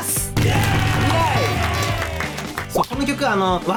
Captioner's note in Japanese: 大歓声